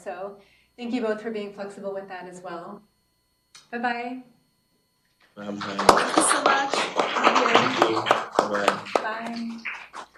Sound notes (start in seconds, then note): 5.4 applause